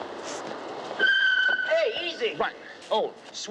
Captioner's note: tires squeal